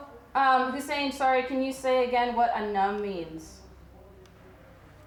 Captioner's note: speaking foreign language